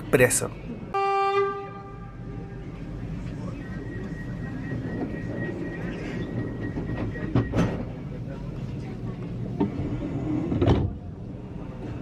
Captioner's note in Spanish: claxón del tren, y sonido de cierre de puertas